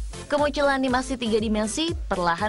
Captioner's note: non-english speech